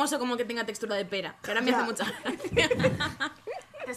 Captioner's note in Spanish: risas